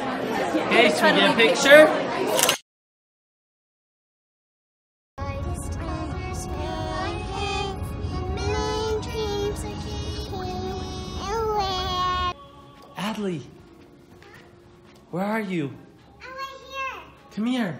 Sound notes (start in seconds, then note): 2.3 camera shutter; 6.1 singing